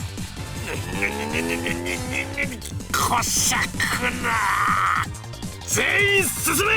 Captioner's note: seething